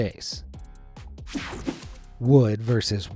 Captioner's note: screen whooshing